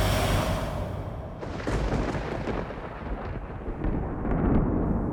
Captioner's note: thunder rumbles